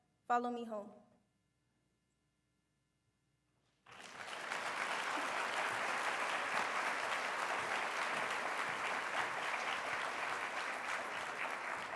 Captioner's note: applause